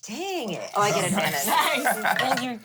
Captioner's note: everyone laughs